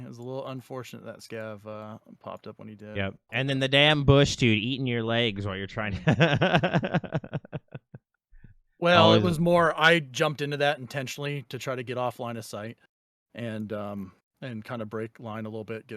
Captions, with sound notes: It was a little unfortunate that Scav popped up when he did. - And then the damn bush dude eating your legs while you're trying to. (laughs) - Well, it was more, I jumped into that intentionally to try to get offline of sight and kind of break line a little bit,